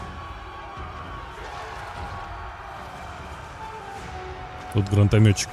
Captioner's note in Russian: ликование